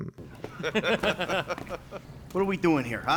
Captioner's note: laugh